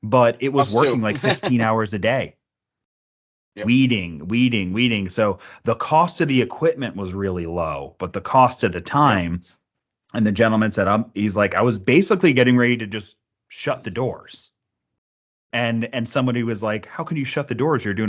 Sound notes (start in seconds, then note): 3.1 chuckles